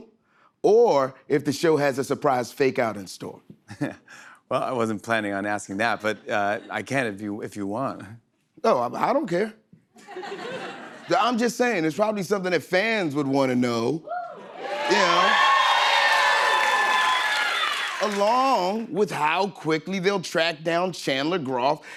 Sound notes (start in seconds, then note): 3.7 chuckles; 9.9 laughter; 14.1 cheers and applause